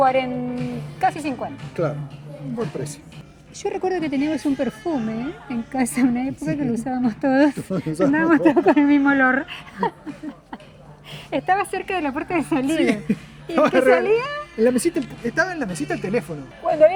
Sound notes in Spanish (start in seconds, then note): 11.2 risas